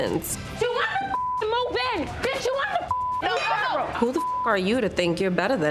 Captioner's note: beep; yelling